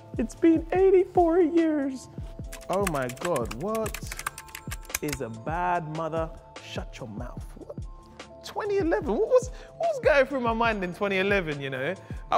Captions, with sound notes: It's been 84 years. (typing) 2011, what was going through my mind in 2011 you know?